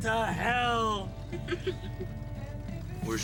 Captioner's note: laughs